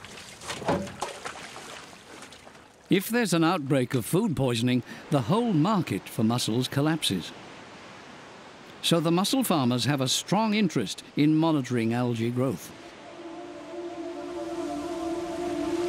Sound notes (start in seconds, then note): 0.0 water splashes; 12.8 suspenseful music